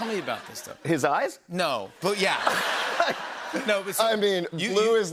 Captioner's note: laughter